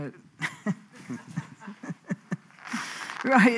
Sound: laughs

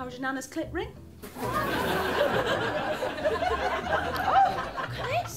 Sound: laughter

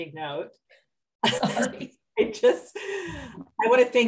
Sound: both laughs

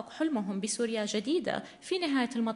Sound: in arabic

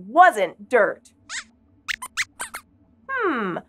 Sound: Squeaks guesses

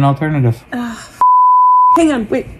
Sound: beeps

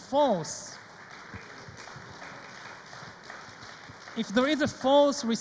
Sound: audience applauds

